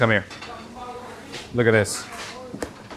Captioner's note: people chatter; metal clangs; people chatter; container taps